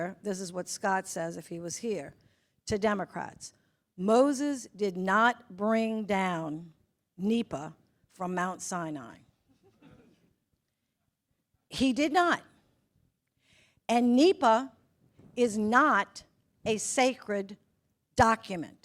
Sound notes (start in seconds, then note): 9.5 attendee chuckle